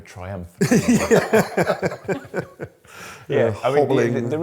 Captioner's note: laughter